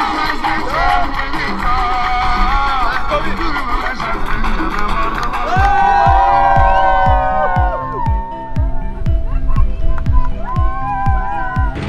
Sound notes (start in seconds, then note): 5.8 crowd cheering; 8.5 gentle dance music